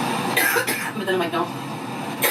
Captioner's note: coughs